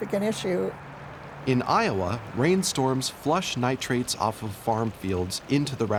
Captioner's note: voiceover